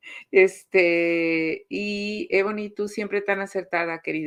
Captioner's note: laughs; speaking Spanish